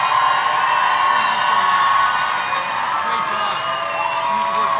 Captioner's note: audience cheering; audience clapping